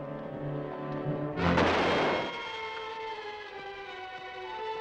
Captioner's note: gun fires